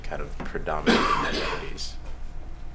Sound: coughing

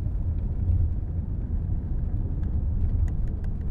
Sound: none

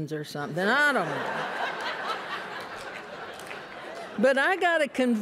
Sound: laughter

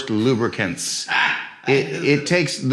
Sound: laughing

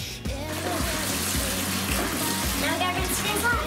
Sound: running water

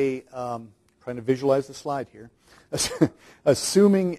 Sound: chuckles

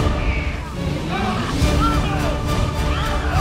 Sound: men shouting

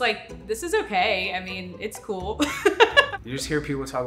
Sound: laughs

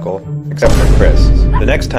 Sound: Vine Boom

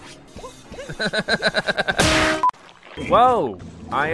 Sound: laughs

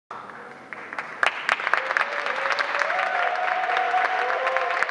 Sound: applause

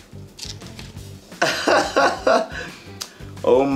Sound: chuckling

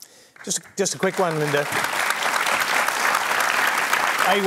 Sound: applause

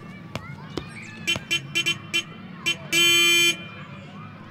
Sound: children shouting happily; vintage car horn honking

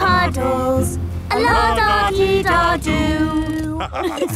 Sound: laughter

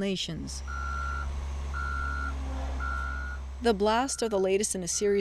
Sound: truck engine revving

